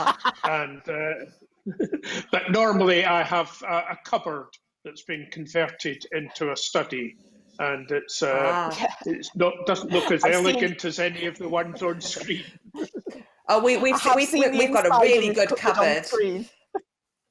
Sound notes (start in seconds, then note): 0.0 laughter; 12.6 chuckling; 16.8 laughter